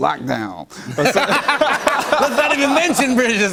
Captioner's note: laughter